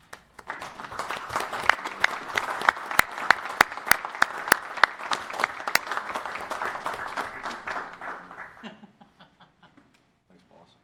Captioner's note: applause